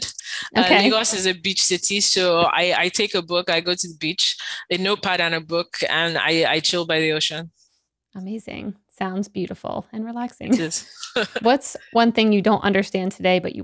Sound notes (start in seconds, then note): 10.5 laughs